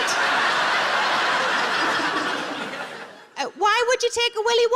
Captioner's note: audience laughs